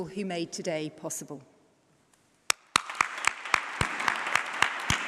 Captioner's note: applause